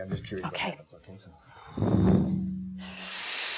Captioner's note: exhaling; inhaling sharply